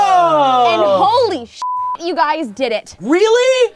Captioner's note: beep